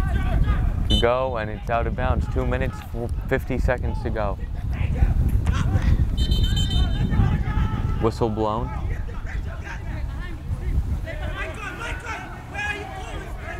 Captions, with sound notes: Go and it's out of bounds. Two minutes 50 seconds to go. (whistle blows) Whistle blown. (players talking and yelling)